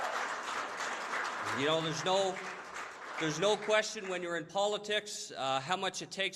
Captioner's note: applause